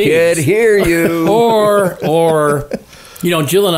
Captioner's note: co-hosts laughing